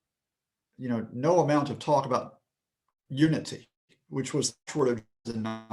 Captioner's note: connection lost